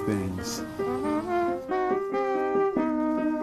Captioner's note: imitating trumpet playing